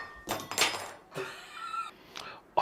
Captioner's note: laughing